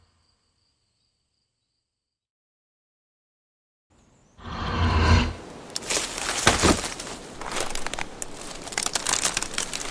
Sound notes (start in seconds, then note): 5.7 the sound of a broken branch